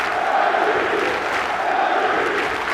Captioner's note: cheers and applause